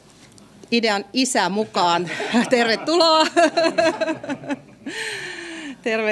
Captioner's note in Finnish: naurua